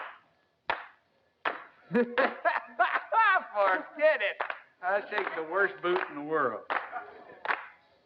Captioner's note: laugh